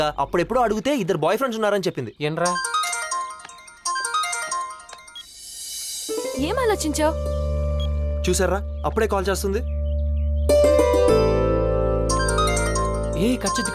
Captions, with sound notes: She must be expecting a gift for herself. That is why she took a shot. And the last time I checked, she said she had two boyfriends. Got that? [PHONE RINGING] What did you decide? Look. She's calling me already.